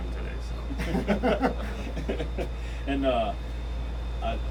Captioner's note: men laughing